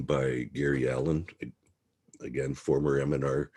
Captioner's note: mouse clicking